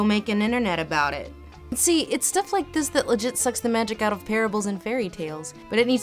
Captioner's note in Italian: voce fuori campo